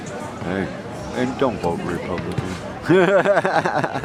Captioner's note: laughs